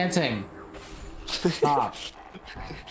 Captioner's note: chuckles